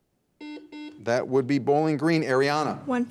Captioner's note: buzzer beeps